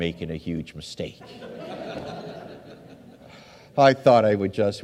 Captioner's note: audience laughs